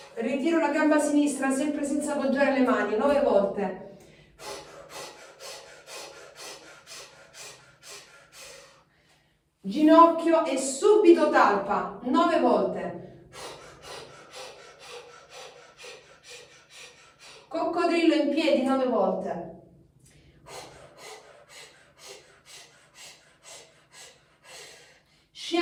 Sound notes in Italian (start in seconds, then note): 6.5 sbuffare